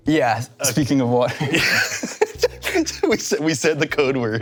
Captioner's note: both laugh